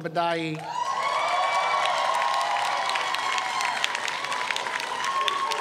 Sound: audience cheers

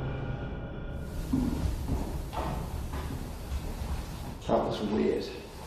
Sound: footsteps echo faintly

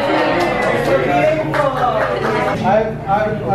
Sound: cheering

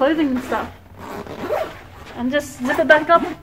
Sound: zipping

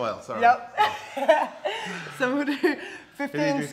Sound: laugh

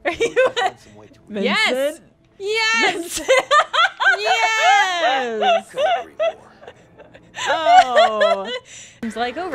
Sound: laughter

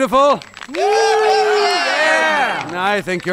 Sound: genuine applauding and cheering

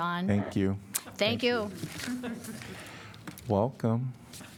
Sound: laughter

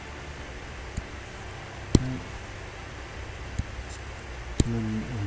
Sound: computer mouse tapping

